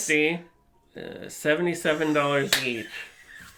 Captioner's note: laughs